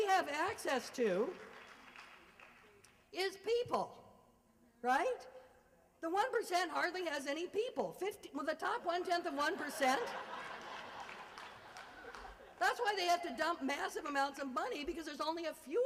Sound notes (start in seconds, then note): 0.8 applause; 8.9 laughter